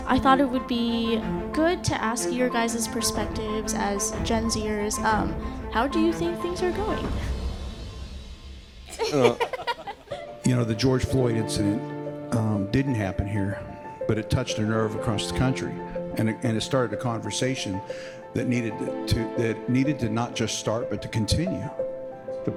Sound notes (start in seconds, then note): 8.9 all laugh